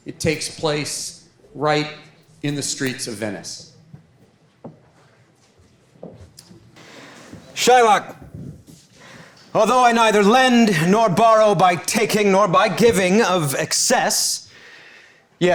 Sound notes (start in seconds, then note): 4.7 footsteps clomping